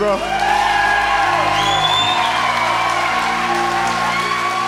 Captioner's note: crowd cheers